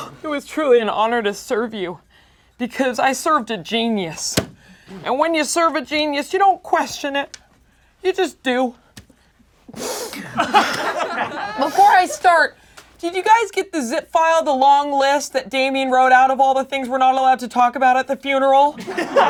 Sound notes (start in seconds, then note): 9.6 sniffles; 10.1 laughing; 18.8 laughing